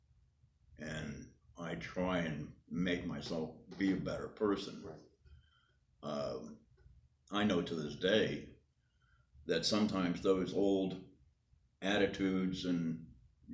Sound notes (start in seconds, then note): none